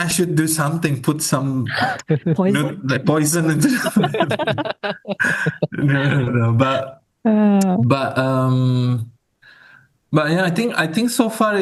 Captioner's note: laughs